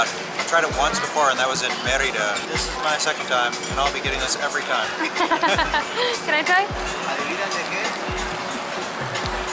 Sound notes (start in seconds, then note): 4.7 giggles